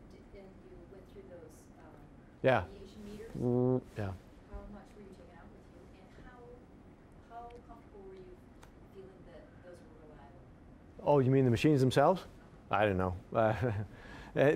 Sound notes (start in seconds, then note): 3.3 mimicking buzzing noise; 13.4 chuckling